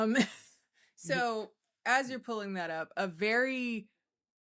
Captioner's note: laughing